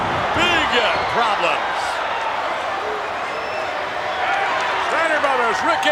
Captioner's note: audience cheers